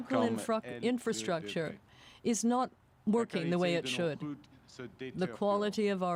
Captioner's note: speaking French